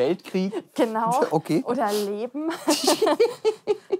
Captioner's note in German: lacht